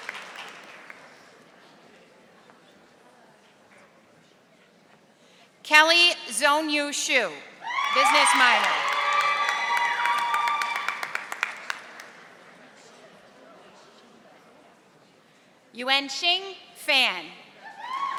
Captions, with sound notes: Kelly Zoneyu Sho, (audience cheering) Business minor. Yuen Shing Phan.